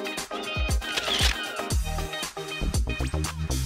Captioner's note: camera Shutter Clicks